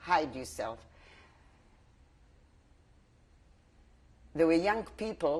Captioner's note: pauses for 3 seconds